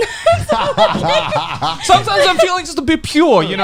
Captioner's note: laughing